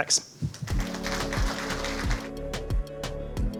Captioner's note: audience applauding; upbeat music